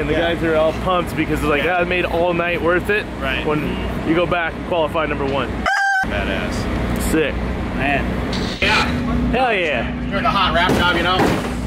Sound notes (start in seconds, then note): 5.6 rooster sound; 8.3 static sound; 10.6 hits car